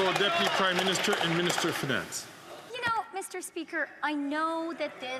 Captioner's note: some Applause